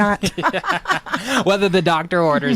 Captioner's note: both laughing